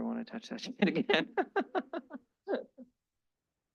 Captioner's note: laughs